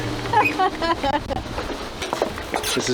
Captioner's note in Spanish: Risas